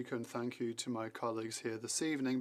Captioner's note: speaking French